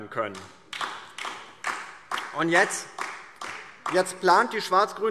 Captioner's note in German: Beifall DIE LINKE